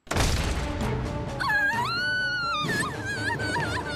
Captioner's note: screams